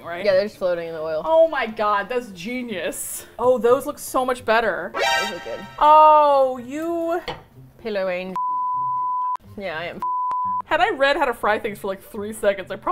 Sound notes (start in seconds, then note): 4.9 bright trill; 8.4 beep